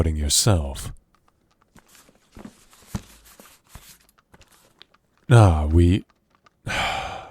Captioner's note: letter opening